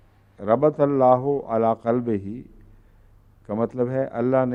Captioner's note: Arabic